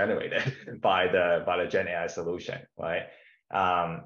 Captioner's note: chuckles